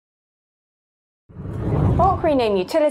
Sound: screen whooshes

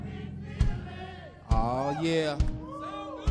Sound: man cheers

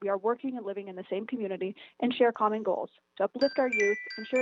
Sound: chime

